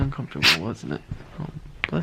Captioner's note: sneezes